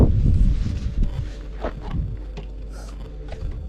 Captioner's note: wind blowing